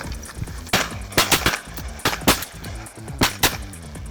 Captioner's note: gun fires